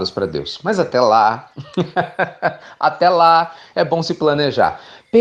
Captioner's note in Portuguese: Risos